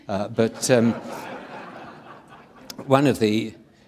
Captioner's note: audience laughing